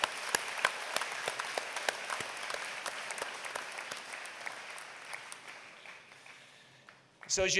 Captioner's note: applause